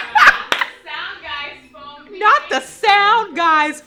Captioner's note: laughs